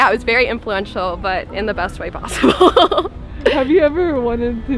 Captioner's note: laughs